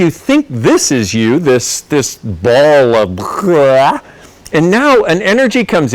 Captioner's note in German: kotz